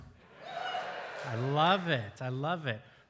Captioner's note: audience cheering and applauding